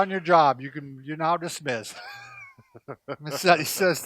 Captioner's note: chuckles